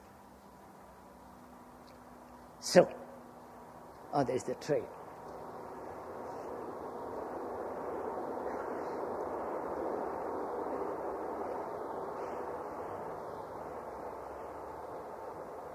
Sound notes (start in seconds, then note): 2.0 sound of train